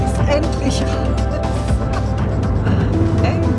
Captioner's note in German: Lachen